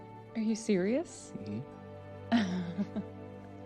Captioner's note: laughs